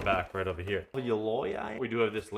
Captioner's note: person speaking in foreign language